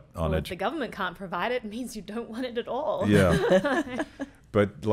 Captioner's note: laughing